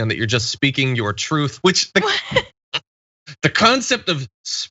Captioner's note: laugh